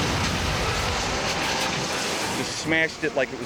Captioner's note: train crashes